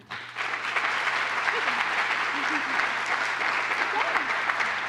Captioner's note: applause